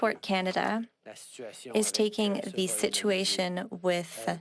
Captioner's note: speaking French